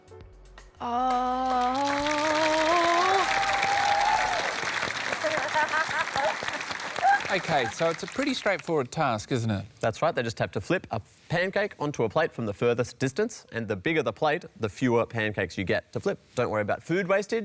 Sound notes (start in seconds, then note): 3.1 cheering, applause; 3.1 laughs